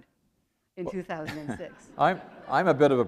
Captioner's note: chuckle